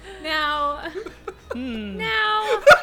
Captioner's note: group laughing